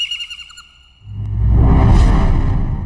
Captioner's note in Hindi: none